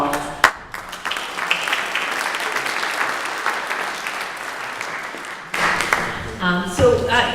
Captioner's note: applause